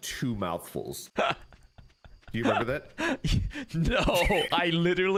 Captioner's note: laughs